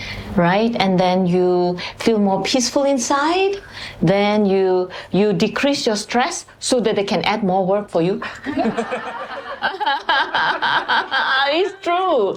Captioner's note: laughter; 笑聲